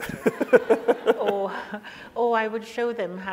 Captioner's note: audience laughs; laughs